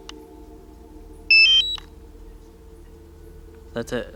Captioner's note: brief beeping